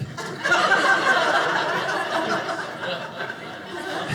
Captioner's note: audience laughing